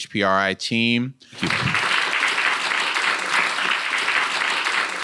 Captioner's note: audience applauding